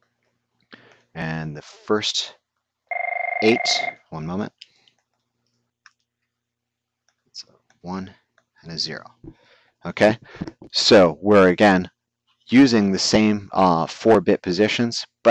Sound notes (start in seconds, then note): 2.9 ringing